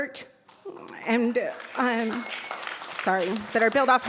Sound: audience applauds

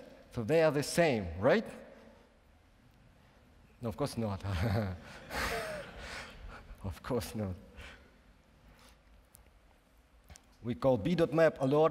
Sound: laughs

